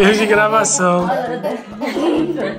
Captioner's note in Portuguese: risos